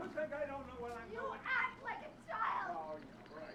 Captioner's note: screaming